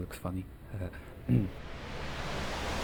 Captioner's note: chuckles; clears throat